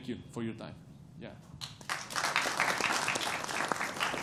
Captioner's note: applause